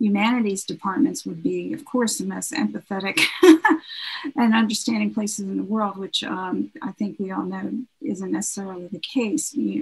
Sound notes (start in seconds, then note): 3.2 laughs